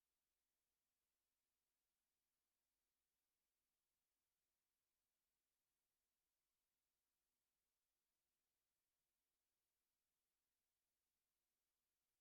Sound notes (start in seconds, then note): none